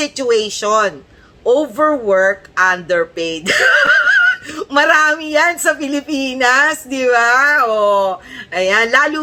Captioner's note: laughter